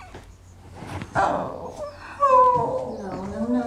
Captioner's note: thump; whimpering